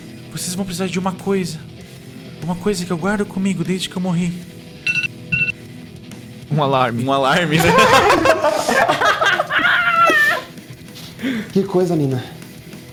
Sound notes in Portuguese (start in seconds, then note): 4.8 Alarme; 7.5 Risos